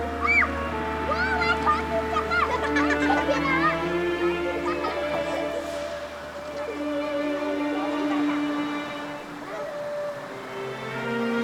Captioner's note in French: cri